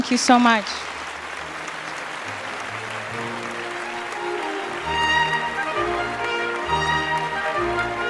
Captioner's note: applause